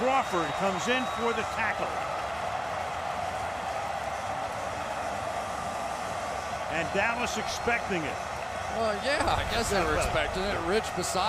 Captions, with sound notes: Jack Crawford comes in for the tackle! [cheering] [pa announcement] And Dallas expecting it. Well, yeah, I guess they were expecting it.